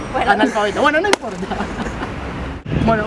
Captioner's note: both laugh